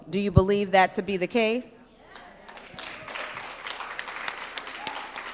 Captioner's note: applause